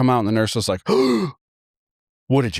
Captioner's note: gasping